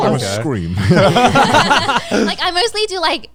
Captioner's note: everyone laughing